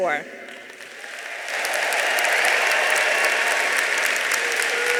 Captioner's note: audience applauding